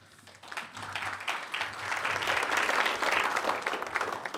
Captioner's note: applause